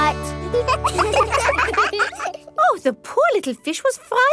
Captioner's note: children laugh